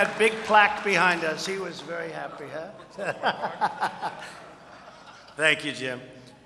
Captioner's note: laughs